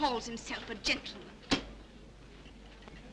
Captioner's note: hand slams